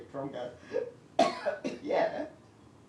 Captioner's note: coughs